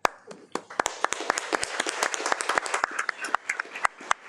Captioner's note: audience applauding